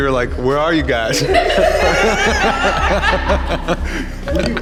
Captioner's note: laughter